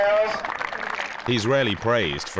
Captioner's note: players clapping